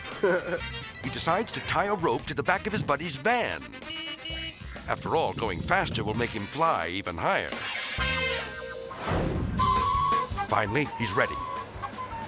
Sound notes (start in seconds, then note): 0.0 laughs; 3.5 van horn honking; 9.5 upbeat cheerful music